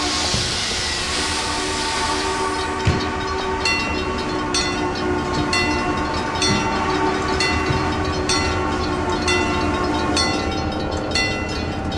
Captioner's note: CNJ Blue Comet Pacific whistle, wig wag ringing